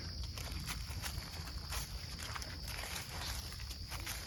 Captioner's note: feet crunching